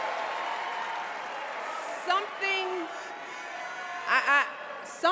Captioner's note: cheers and applause